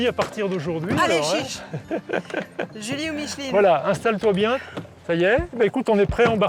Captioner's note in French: rires